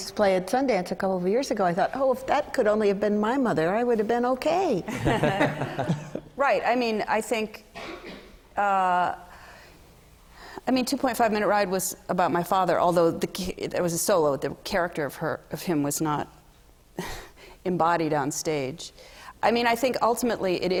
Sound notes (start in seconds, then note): 4.9 laughter